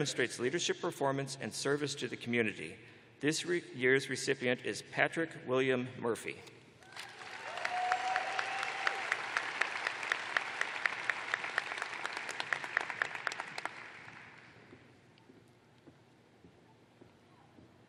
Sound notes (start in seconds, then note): 4.1 cheers and applause